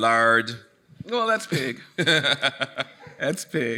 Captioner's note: laughing